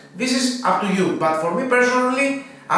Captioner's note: none